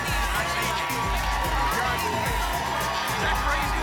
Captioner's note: applause and cheering cont